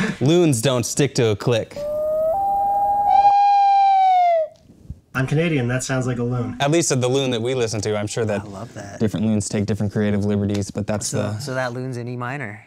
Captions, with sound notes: - Lunes don't stick to a click. (loon wooping) (slide whistle) - I'm Canadian, that sounds like a loon. - At least the loon that we listen to, I'm sure that-- - I love that. - different loons take different creative liberties , but that's the... So that loons in E minor.